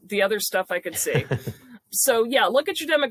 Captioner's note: laughs